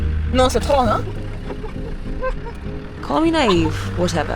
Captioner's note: speaking in foreign language